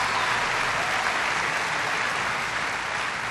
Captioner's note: applause